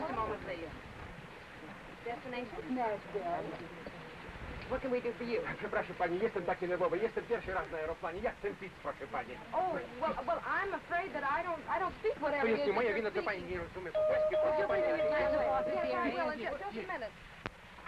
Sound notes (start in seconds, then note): 6.2 speaking in Spanish; 12.6 speaking in Spanish; 13.9 bell dings